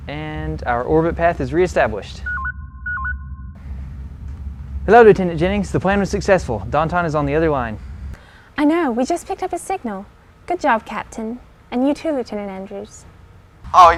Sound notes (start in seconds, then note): 2.2 beeping